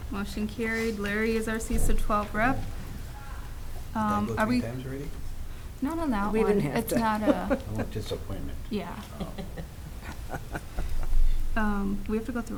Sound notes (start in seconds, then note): 4.4 mumbling; 9.0 laughing